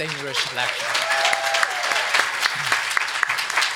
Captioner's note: group clapping